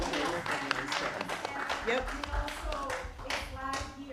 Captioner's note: applause